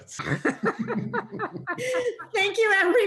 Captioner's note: all laughing